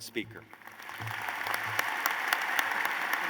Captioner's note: applause